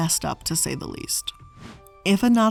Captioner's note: air whooshing